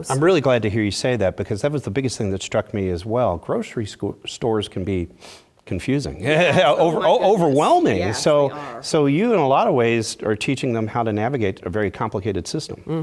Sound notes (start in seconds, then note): 6.3 laugh